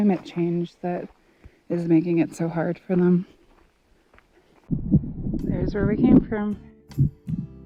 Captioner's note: light wind noise